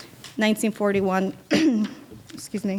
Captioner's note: coughing